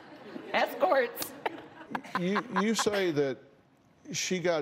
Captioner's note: laughs